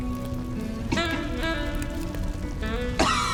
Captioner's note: coughs